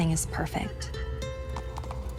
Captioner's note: light guitar music; horse clopping